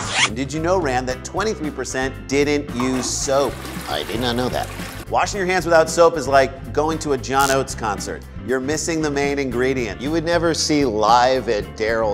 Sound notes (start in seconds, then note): 2.7 toilet flushes